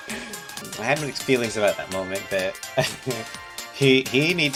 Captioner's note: chuckles